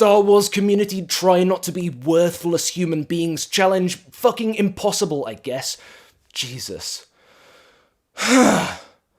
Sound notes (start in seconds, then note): 8.1 sigh